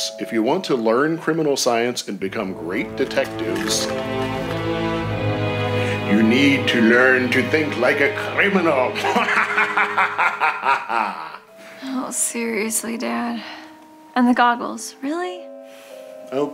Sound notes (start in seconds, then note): 3.9 dramatic music; 9.0 dad laughing